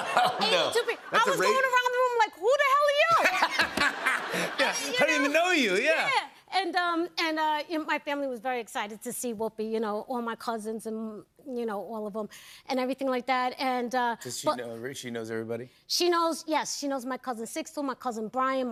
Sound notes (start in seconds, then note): 3.1 laughter